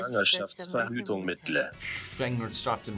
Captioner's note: foreign language